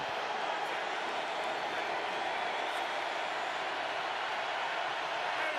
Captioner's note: crowd cheering